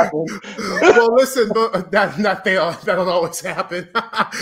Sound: laughs

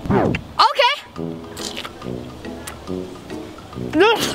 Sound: chews loudly

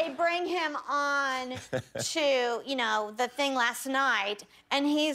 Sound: laughter

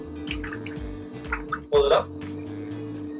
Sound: water sloshing

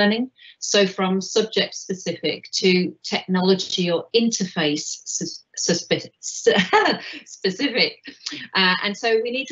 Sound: chuckles

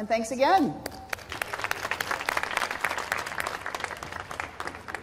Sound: applause

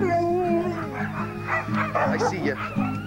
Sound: dog barking

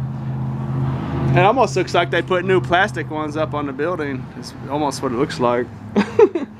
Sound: laugh

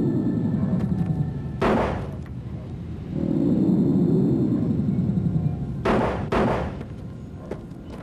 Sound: monster roar; ineffectual gun shots

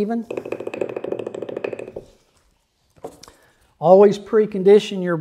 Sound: brush rattling

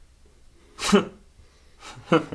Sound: David laughs

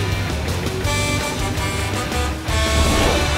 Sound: horn honking

